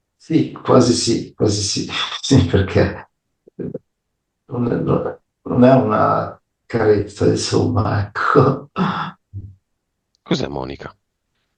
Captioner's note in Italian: schiarire la voce